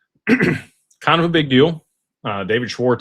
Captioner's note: clears throat